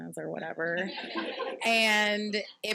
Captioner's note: participants laughing